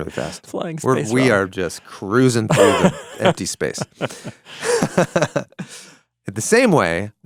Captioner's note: chuckles